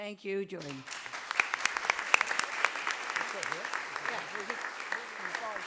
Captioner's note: audience applauding